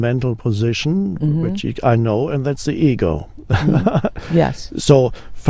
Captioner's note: laughs